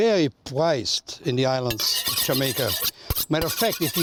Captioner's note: knives</b> <b>sharpening